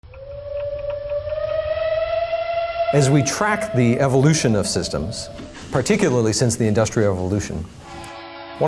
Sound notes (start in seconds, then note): 0.2 train whistle blowing